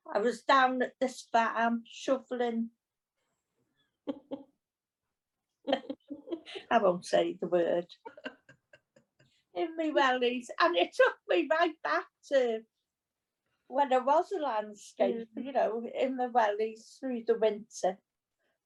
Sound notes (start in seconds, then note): 5.6 chuckles